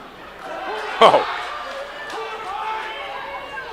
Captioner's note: crowd noise